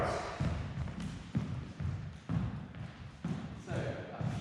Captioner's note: footsteps thumping